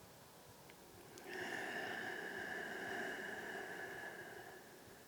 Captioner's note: exhales deeply